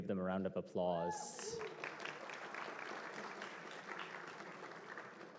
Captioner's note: applause